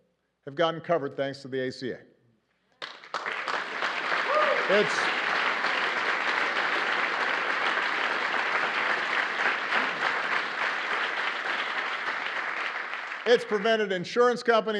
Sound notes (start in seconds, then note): 6.1 applause